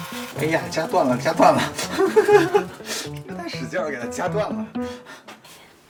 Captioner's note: ahh.. this awkward laughter